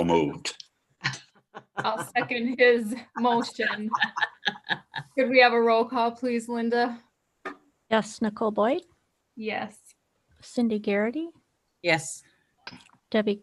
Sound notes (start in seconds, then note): 3.9 laughing